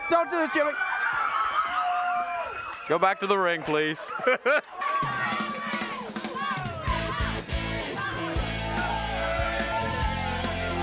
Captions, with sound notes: Don't do it Jimmy, (laughs) go back to the ring please. (laughs) (upbeat music) (crowd cheering)